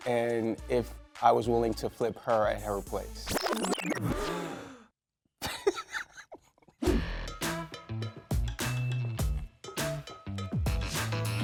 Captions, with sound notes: and if I was willing to flip her at her place. (giggles sheepishly)